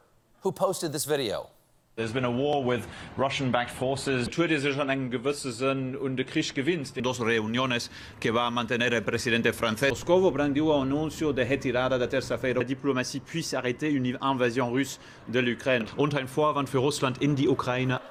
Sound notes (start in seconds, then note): 0.2 in spanish; 9.7 in french; 9.7 in portuguese; 11.9 in german